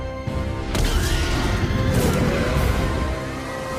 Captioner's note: T-Rex: Roar; screaming